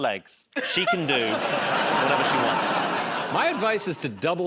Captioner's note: laughter